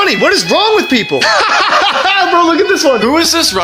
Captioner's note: laughs loudly